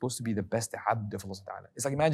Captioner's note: speaking foreign language